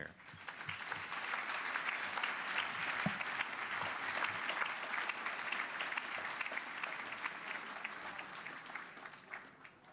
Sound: applause

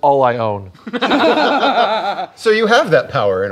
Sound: laughter

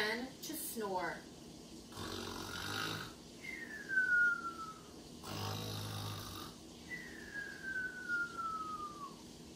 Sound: snoring Noises

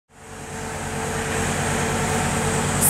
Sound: truck sounds

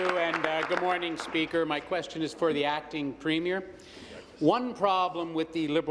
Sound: applause

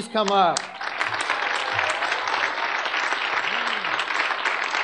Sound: audience clapping

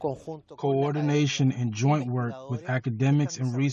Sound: through translator

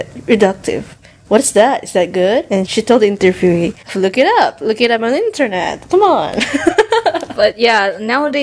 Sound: laughs

